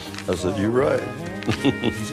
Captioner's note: laugh